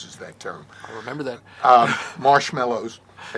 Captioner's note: laughs